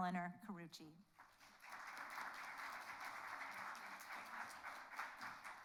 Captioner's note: audience applauds